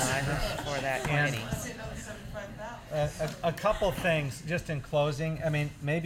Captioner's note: laughter